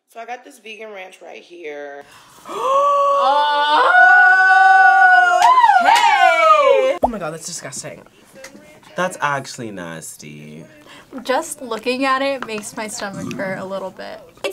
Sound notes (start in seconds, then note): 2.1 gasps